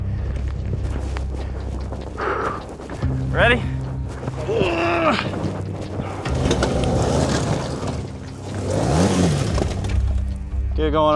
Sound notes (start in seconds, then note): 1.7 breathes heavily; 3.6 groans; 7.0 motorcycle engine revving